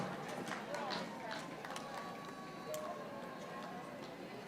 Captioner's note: audience applauding